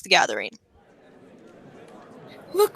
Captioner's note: crowd murmurs ... continues in bg